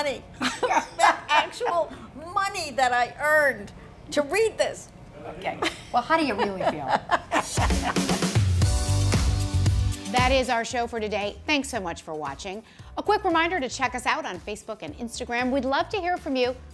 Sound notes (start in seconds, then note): 5.6 laughs